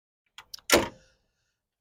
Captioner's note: door closing